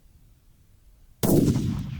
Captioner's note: gun shot